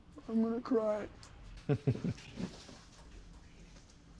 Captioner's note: chuckles